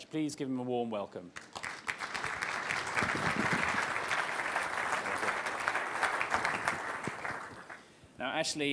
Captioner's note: applause